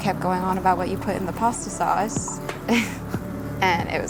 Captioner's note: laughs